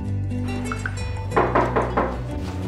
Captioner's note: knocking on door